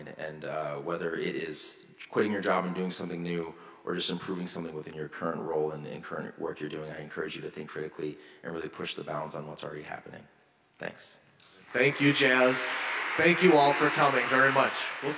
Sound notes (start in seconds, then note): 11.6 audience applauding